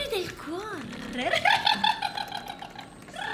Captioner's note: laughter